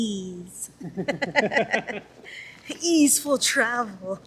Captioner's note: laughter